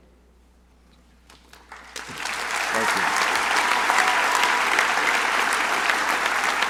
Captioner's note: crowd applauding